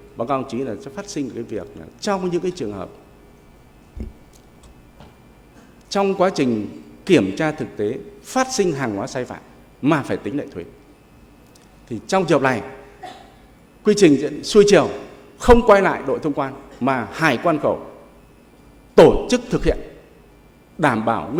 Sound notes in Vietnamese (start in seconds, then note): 12.8 hắng giọng